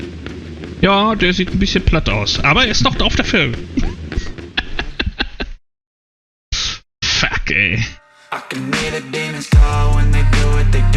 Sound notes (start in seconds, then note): 3.6 laughs